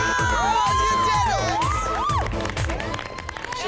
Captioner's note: cheering; music stops